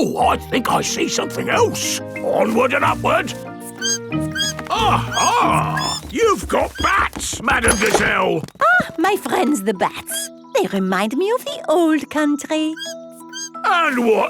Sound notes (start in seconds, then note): 3.6 bat squeaking